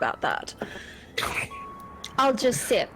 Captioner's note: snort